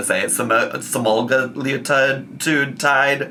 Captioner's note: stutters